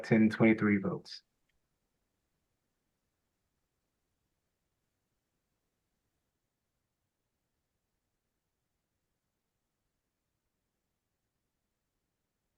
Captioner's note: pause